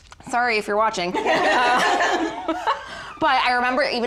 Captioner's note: all laugh